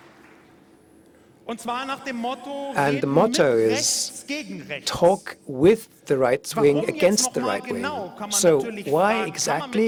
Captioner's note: applause